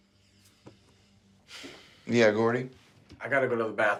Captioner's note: sighs